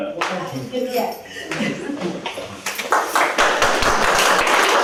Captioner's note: applause